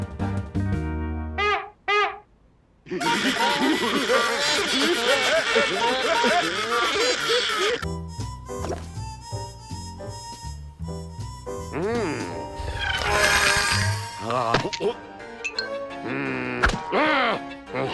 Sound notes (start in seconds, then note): 0.7 honks horn; 2.9 laughter and music; 12.6 fast whirring